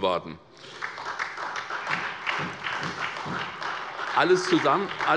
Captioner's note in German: Beifall bei der SPD